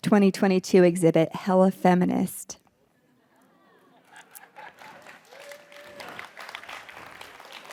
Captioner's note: audience laughs and applauds